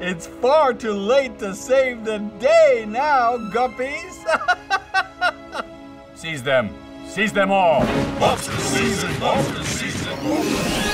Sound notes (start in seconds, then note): 4.0 laughing